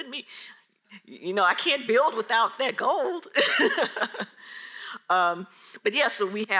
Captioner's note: laughs